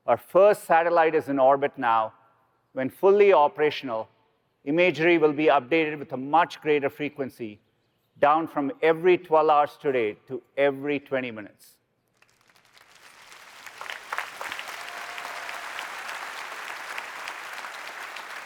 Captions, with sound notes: Our first satellite is in orbit now. When fully operational, imagery will be updated with a much greater frequency, down from every 12 hours today to every 20 minutes. [APPLAUSE]